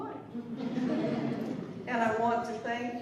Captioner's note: laughter